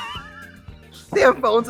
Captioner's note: Trixie laughing